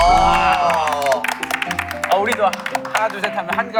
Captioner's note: laughing